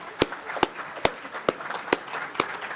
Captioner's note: applause